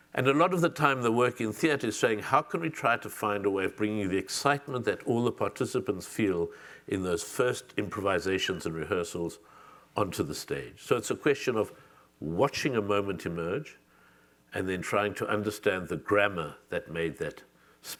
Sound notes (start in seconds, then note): none